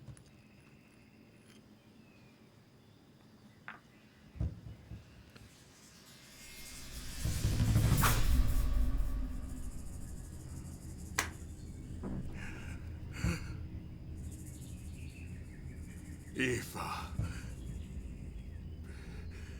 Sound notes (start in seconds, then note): 7.9 blows; 12.0 gasps